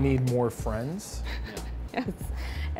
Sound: laughing

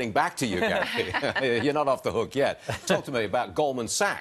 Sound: laughter

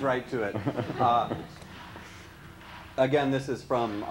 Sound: laughs

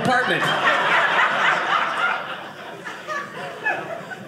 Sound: audience laughing

